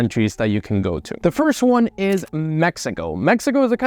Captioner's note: screen scratches